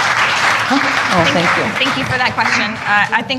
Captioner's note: applause